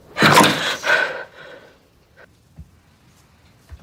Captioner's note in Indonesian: terengah-engah